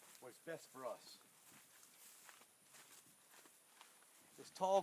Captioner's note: sounds of walking